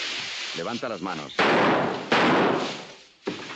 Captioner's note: gunshots